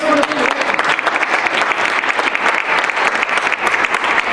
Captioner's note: applause